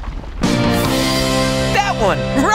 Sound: success sound

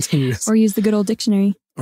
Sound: laughs

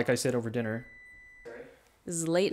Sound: oven beeps

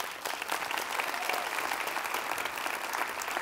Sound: applause

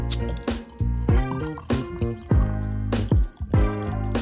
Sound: beer pours

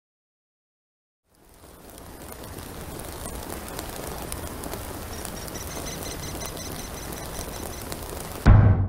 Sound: crackling of fire

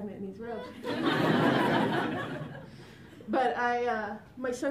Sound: laughter

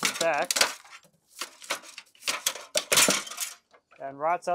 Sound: flashing clanging

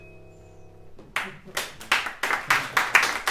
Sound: applause

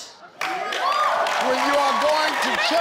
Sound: audience applauding

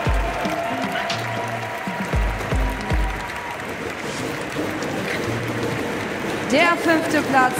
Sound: audience stomps with their feet on the metal stands

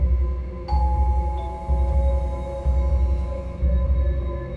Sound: doorbell rings

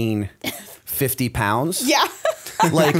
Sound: chuckle

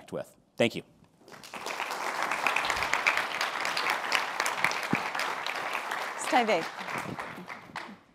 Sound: applause

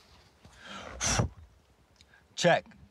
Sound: blows

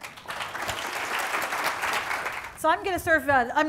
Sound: audience applauding

